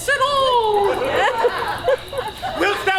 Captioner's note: audience laughs